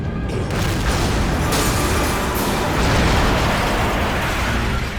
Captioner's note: explosion booms